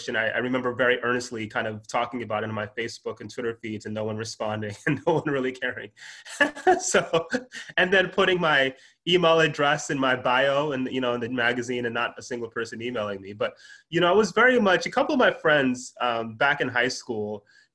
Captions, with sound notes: and I remember very honestly talking about in my Facebook and Twitter feeds and no one responding and no one really caring. [laughs] Then putting my email address in my bio, the magazine and not a single person emailing me, but I was very much-- A couple of my friends back in high school,